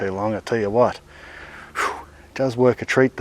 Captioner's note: exhales